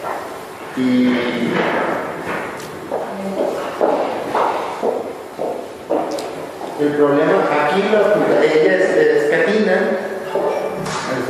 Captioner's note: footsteps